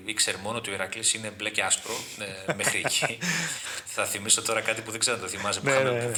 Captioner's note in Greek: γέλια